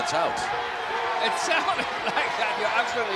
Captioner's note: chuckles